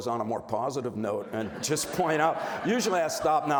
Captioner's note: audience laughs